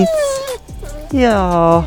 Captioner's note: dog whimpers